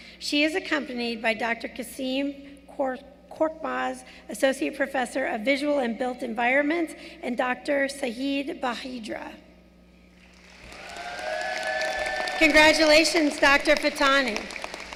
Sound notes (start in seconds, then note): 10.2 applause